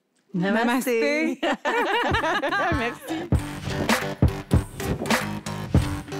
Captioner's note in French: rires